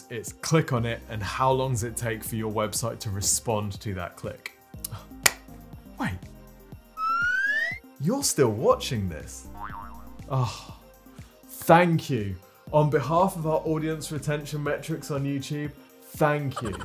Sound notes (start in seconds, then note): 5.2 hands clap; 7.0 whistle squeaks; 9.5 spring boings